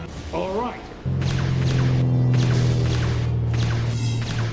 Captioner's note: lasers blasting